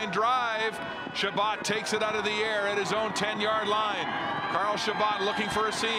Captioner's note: crowd Noise